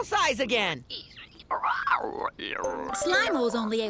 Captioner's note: croaking